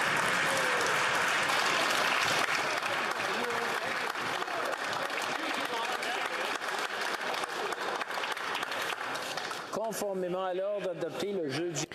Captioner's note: cheering/Applause